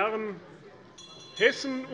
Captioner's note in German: Unruhe - Glockenzeichen des Präsidenten